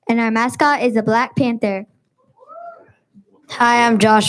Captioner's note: student whoops